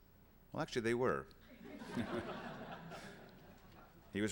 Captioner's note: laughter